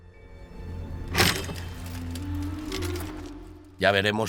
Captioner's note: sword clangs